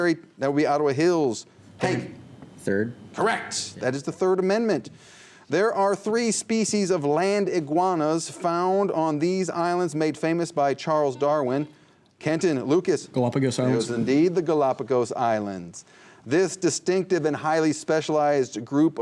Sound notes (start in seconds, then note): 0.2 buzzer; 11.2 buzzer